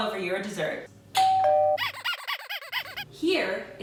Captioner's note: doorbell ringing